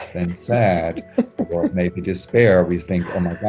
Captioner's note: laughs